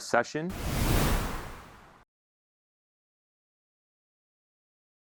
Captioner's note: air whooshing